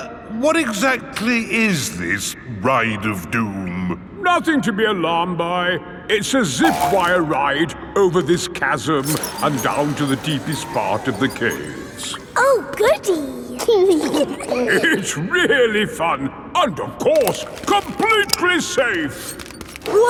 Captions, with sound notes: Er, what exactly is this "Ride of Doom"? Nothing to be alarmed by! It's a Zip Wire ride over this chasm and down to the deepest part of the caves! Oh Goody! (GIGGLING) It's really fun! And of course, completely safe.